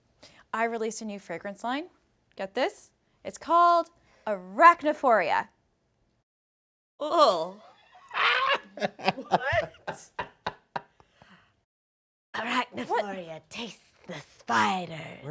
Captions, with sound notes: I released a new fragrance line. Get this. It's called Arachnidphoria. (Victor laughing) Arachnidphoria, taste the spider.